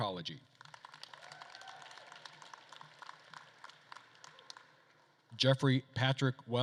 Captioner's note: attendees applauding and cheering